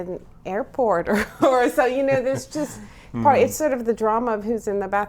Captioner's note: laughs